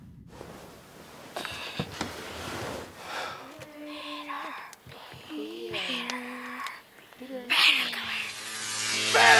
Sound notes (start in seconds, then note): 1.2 whispers